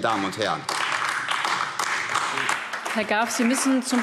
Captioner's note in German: Beifall AfD